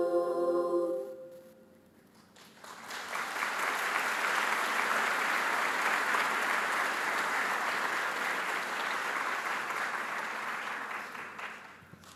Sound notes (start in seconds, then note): 2.1 audience claps